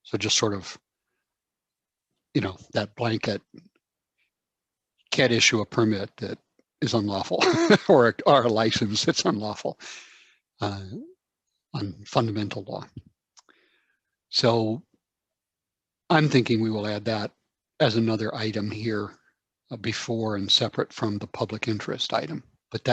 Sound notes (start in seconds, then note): 7.4 laughs